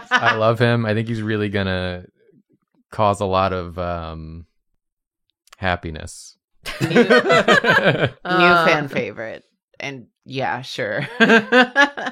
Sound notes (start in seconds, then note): 6.6 laughter; 10.8 laughs